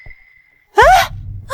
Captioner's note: sigh